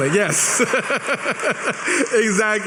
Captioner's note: laughs